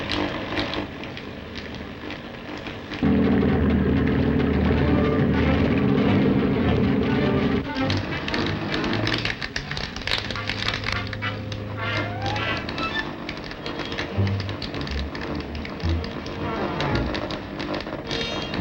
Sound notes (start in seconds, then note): 3.0 engine rumbles; 7.7 machine buzzes